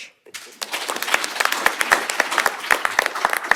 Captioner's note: applause